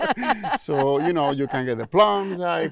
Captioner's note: laughing